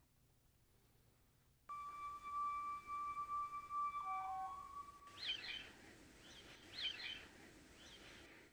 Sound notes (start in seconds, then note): 1.7 instrumental music; 5.2 birds chirping